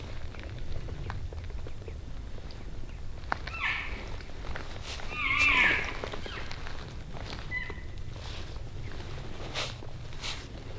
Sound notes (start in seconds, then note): 3.4 caller cow calling